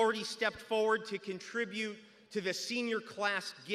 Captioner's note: none